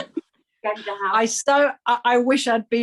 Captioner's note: laughing